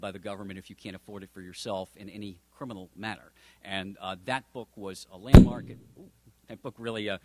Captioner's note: thud